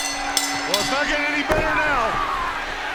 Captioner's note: bell ringing